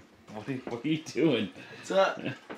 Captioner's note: laughs